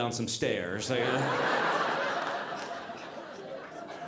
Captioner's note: audience laughing